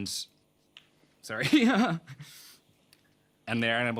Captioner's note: laughs